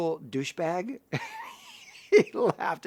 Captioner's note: laughs